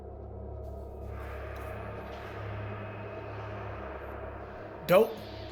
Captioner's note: distant ghostly whispers